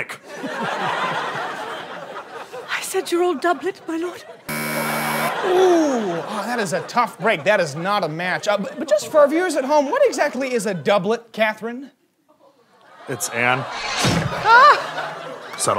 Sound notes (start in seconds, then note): 0.2 audience laughter; 4.5 buzzer; 13.8 guillotine chop